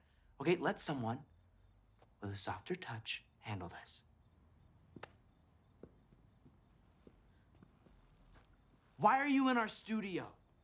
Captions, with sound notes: OK? Let someone with a softer touch handle this. [Alex claps] Why are you in our studio?